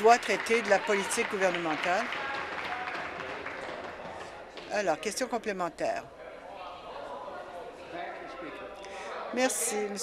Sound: applause

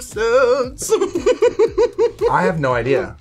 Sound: laughs

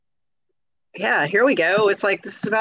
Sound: none

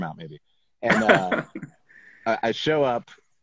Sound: laughs

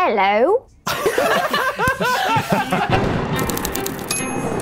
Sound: laughing

